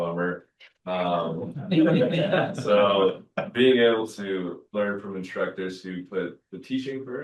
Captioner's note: laughter